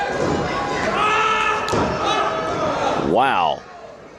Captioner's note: shouting